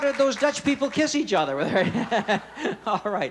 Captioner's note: laughs